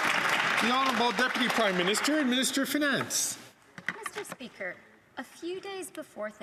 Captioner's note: some Applause